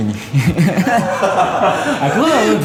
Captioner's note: laughs